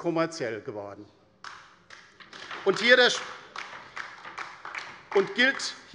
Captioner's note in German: Beifall bei der LINKEN